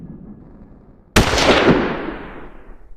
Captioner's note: gun Shot